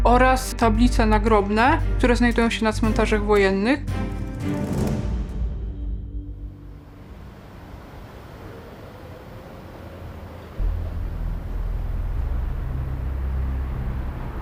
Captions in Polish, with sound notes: oraz tablice nagrobne, które znajdują się na cmentarzach wojennych. [akcent muzyczny] [przejeżdżające samochody]